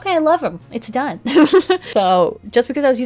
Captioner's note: laughs